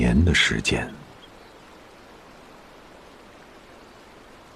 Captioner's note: soft sound of the wind